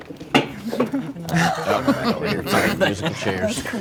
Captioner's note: group chuckling